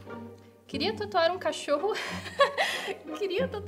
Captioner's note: laughs